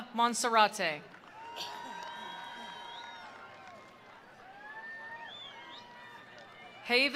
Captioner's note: attendees applauding; attendees cheering